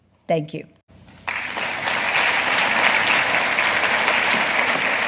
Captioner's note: audience applauding